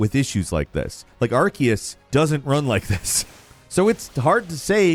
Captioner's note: laughs